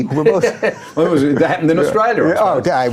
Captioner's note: laughing